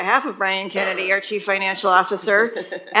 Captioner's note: laugh